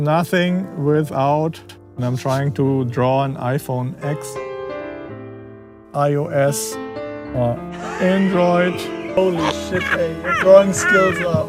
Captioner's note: laughter